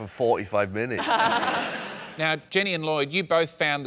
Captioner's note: laughter